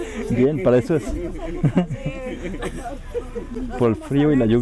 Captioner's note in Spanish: jaja risas; risas